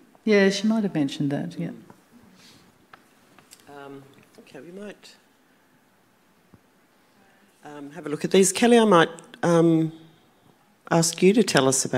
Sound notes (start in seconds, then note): none